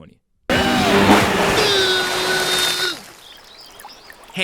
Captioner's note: loud engine